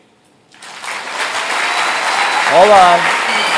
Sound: audience cheers loudly

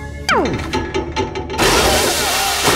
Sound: pipes rattling; yelling

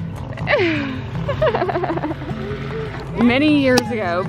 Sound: laughs

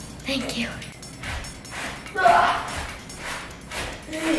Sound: sliding

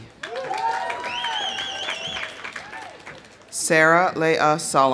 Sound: audience applauding; audience cheering

